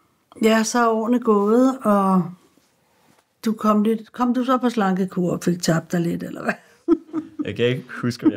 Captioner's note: chuckles